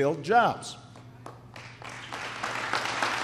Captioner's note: applause